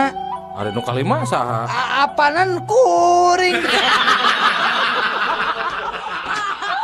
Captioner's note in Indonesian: tertawa